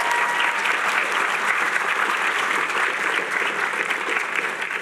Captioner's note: cheering